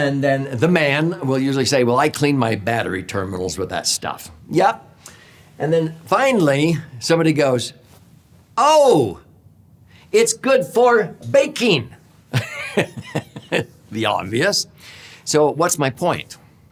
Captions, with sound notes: And then the man will usually say, "Well, I clean my battery terminals with that stuff." Yep. And then finally somebody goes, "Oh, it's good for baking. (laughs) The obvious. So what's my point?